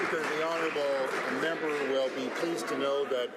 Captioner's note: some Applause